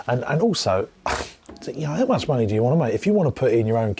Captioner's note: scoffs